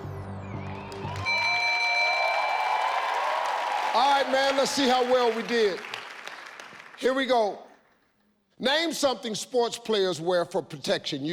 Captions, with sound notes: (bell chimes) (audience cheering) - All right, man. Let's see how well we did. Here we go. Name something sports players wear for protection.